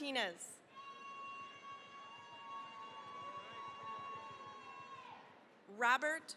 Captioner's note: cheering, applause